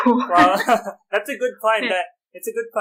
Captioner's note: laughter